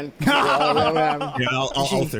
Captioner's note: laughing